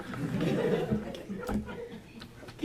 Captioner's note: laughter